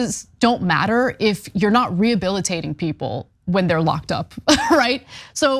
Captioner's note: laugh